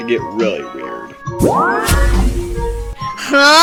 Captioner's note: mystical sound